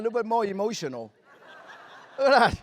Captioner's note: laughter